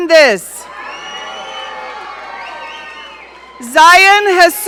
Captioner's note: audience cheering